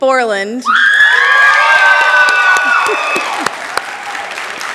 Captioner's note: cheering, applause